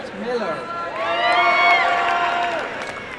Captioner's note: cheering